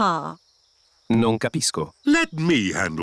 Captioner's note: replies in italian